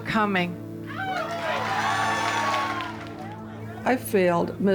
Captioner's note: crowd cheers